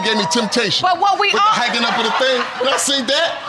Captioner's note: audience laughing